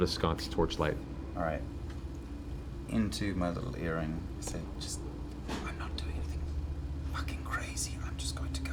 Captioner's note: whispers